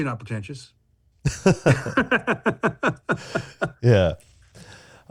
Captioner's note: laughs